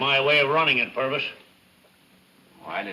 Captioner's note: none